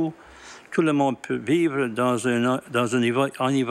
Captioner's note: speaking French